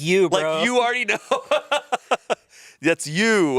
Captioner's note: laughs